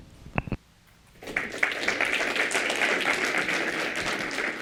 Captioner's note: applause